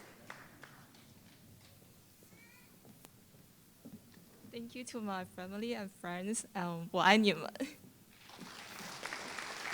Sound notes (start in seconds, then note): 0.0 applause; 6.8 foreign Language